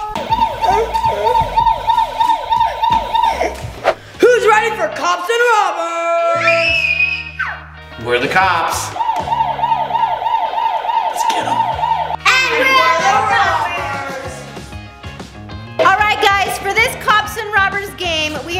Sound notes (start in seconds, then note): 0.0 toy police siren wails; 6.2 screams; 8.9 toy police siren wails